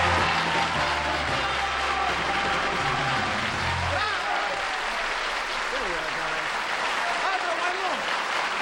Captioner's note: applause